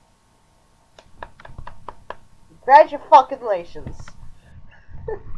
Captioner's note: clapping